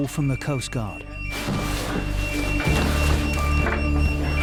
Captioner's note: alarm blaring